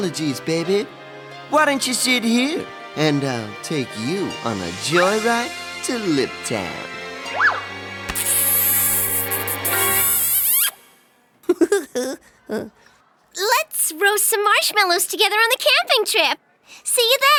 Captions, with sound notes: apologies, baby. Why don’t you sit here, and I’ll take you on a joyride to lip town. (Lips smacking) (Giggling) Let’s roast some marshmallows together on the camping trip.